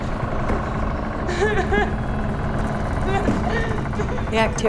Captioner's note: sobbing